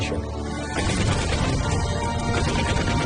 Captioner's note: gunfire, explosions